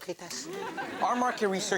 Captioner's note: audience laughs